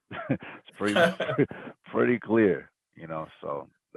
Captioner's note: laugh